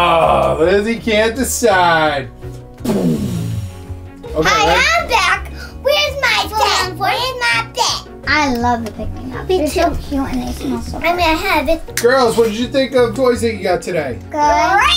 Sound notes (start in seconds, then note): 4.5 playful voice